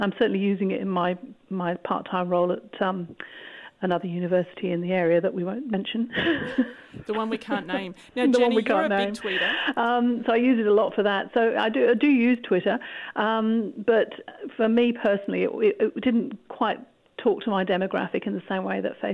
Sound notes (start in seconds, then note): 6.1 laughter; 6.2 laughs